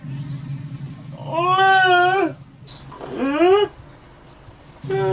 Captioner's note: monster grunts